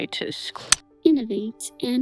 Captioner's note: clicking